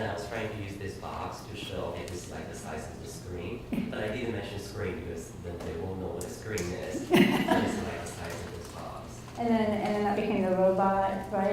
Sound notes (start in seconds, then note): 7.0 audience laughs